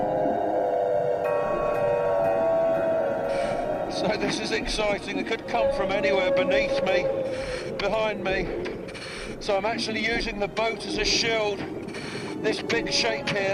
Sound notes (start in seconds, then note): 4.4 moans